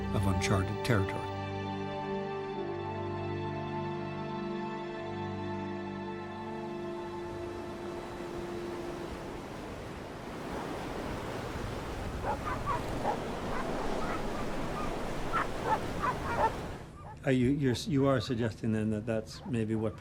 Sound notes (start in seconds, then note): 9.0 sound of wind; 12.1 sound of dogs barking